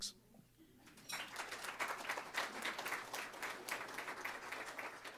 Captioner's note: applause